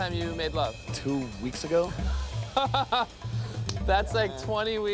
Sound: laughs

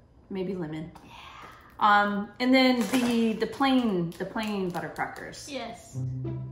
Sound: whispers

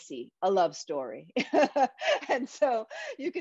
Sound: laughing

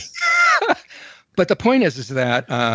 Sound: laughs

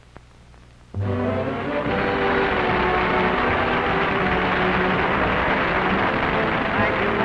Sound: applause

